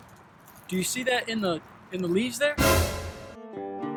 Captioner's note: suspenseful sound